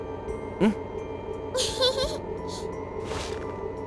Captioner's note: giggle